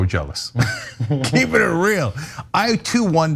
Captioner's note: laugh